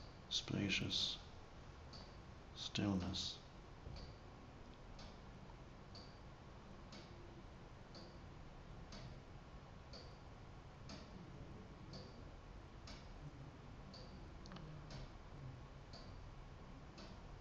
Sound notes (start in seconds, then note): 4.1 clock ticking